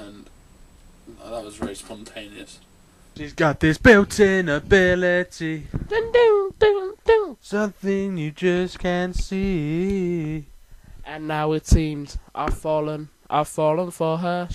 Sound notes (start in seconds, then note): 5.9 mimicks keyboard